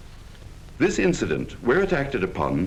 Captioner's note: voiceover